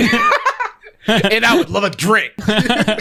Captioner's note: pair laughs